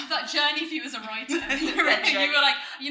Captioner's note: laughing